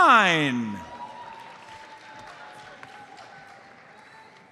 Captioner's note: audience applauds